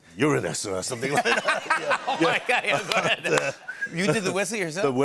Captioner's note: laughter